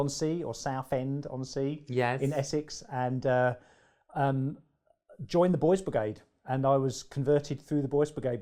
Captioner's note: accented